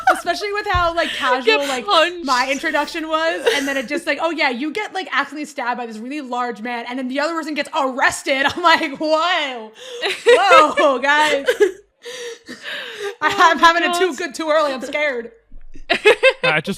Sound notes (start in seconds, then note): 3.4 laughing; 9.8 laughter